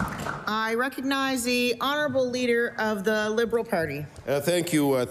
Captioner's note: applause